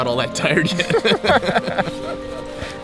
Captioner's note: both laugh